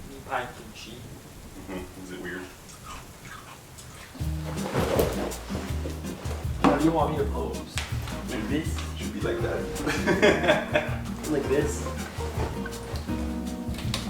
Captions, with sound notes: Meat pie and kimchi - Is it weird? (sofa plops) - How do you want me to pose, like this? - You should be like that. (laughs) - Like this?